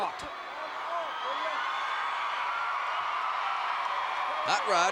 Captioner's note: crowd cheering